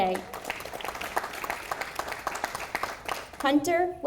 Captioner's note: audience applauding